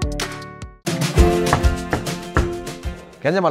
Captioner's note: knock, knock, knock